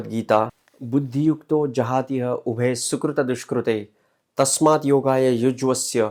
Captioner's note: speaking in foreign language